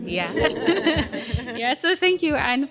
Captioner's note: laughter